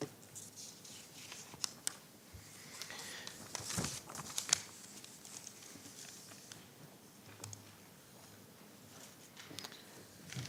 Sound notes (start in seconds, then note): 3.2 papers shuffling